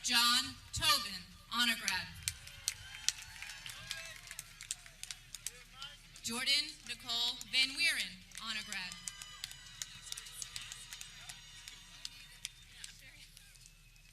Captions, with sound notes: Michael John Togan, Honor grad (people clapping) Jordan Nicole Van Wieran, Honor grad (people cheering)